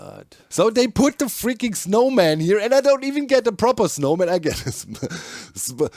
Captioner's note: laughs